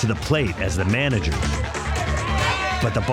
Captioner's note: chatter